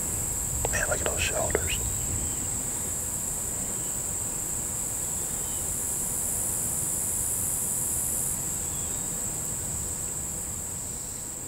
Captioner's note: whispering